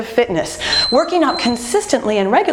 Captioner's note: timer beeping